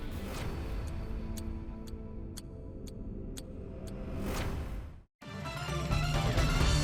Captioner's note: clock ticking; intense music